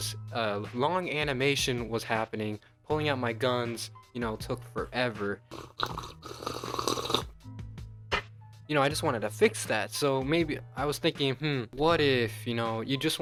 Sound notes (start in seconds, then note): 5.4 slurps tea